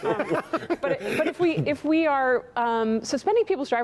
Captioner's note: laughter